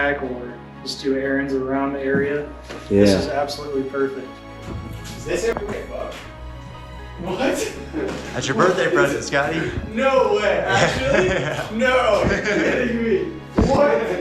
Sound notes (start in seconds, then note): 12.2 laughing